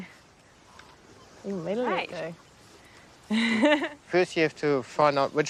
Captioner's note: laughs